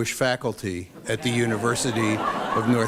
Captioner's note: laughter